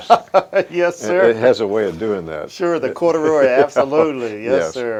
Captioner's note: laughs